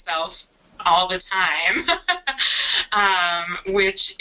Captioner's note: laughs